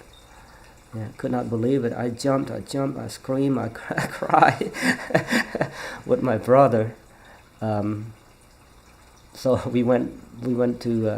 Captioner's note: laughs